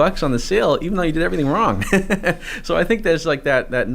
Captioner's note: chuckles